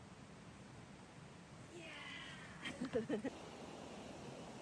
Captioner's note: giggles